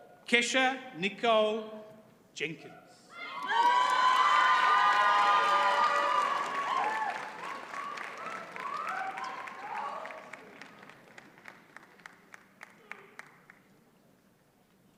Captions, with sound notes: Kesha Nicole Jenkins. (audience cheers and applauds)